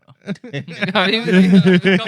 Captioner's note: laughter